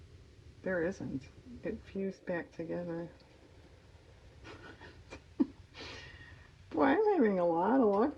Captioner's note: laughs